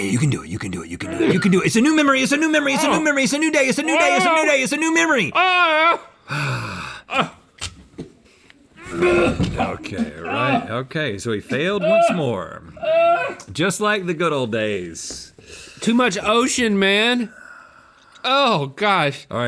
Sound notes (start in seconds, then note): 5.7 crying in protest; 8.9 retching